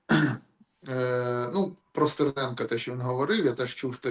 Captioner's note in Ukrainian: прочищення горла